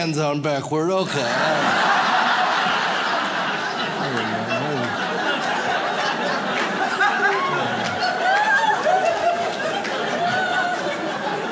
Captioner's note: audience laughs